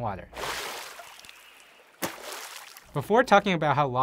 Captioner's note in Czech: šplouchnutí vody